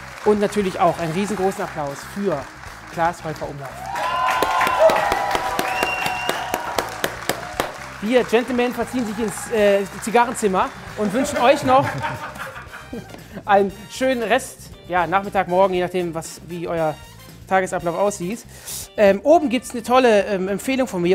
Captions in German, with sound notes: Und natürlich auch einen riesengroßen Applaus für Klaas Heufer-Umlauf. (Jubel, Applaus) Die Gentlemen verziehen sich ins Zigarrenzimmer. Und wünschen euch noch ... (Lachen) Einen schönen Rest-Nachmittag, -Morgen, je nachdem, wie euer Tagesablauf aussieht. Oben gibt's 'ne tolle Empfehlung von mir,